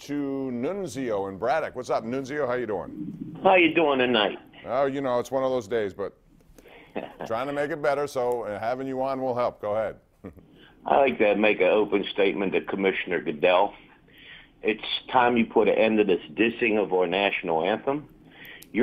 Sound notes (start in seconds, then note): 10.2 laughter